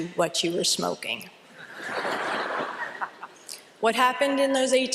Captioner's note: laughter